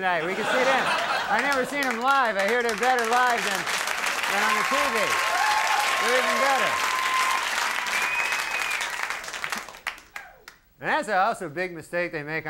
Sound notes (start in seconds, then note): 0.2 audience laughing; 2.5 audience clapping; 4.3 audience cheering